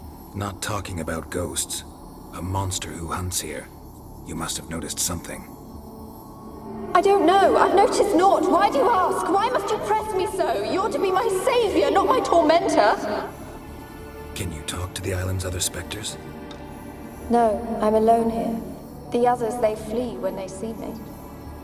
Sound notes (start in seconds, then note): 6.5 agitated; 17.0 calmly